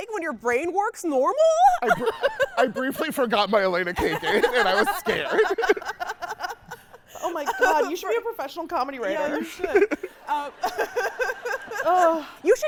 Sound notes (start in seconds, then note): 3.9 laughing; 6.0 host laughing; 9.0 laughing; 9.1 audience laughing